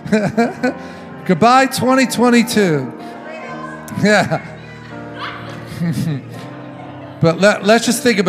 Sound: audience clamoring goodbyes

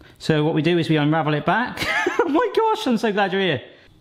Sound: chuckles

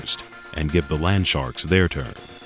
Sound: voiceover

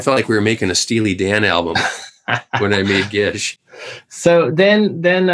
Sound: laughter

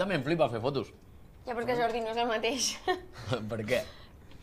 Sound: laughs

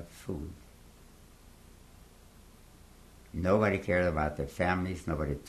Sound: pauses for 3 seconds

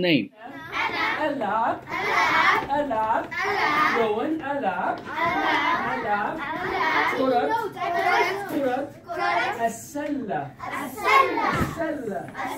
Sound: students and teacher speaking Arabic

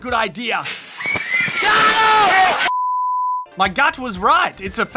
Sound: sprinklers and screaming

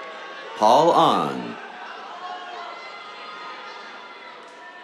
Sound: cheers

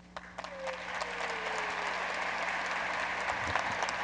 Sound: audience applauds

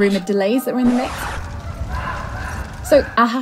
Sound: fire crackling; pained screams; record scratch

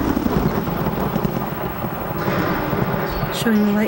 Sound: thunder

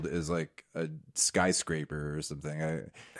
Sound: none

